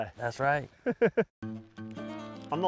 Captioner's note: chuckles